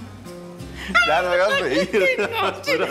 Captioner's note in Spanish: Risas